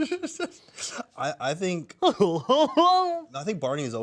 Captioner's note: laughs